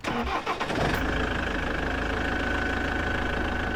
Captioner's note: engine started